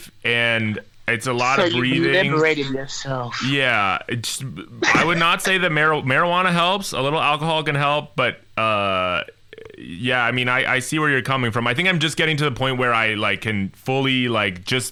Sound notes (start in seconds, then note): 3.0 in a sultry voice